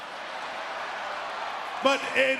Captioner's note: audience cheering